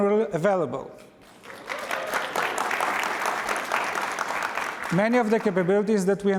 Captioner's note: applause